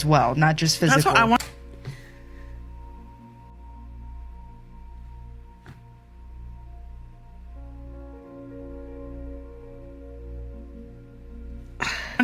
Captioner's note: infinite... pause... and sigh